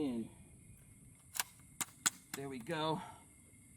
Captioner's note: clicking